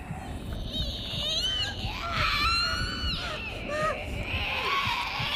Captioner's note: Abigail screeching